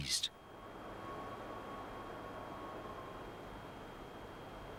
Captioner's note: wind howling